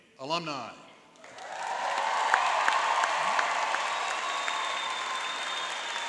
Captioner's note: applauding and cheering